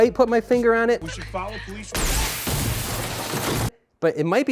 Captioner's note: explosion, crashing